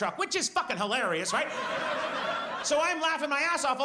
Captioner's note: audience laughs